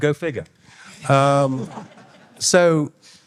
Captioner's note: all laughing